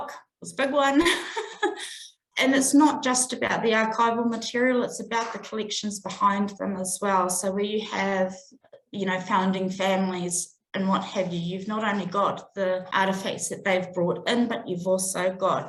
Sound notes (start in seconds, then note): 1.0 laughs